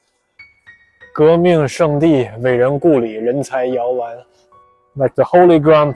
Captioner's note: speaking Chinese